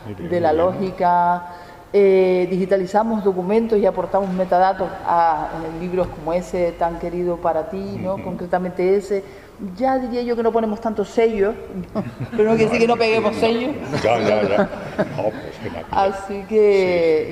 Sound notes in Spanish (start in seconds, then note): 13.8 risas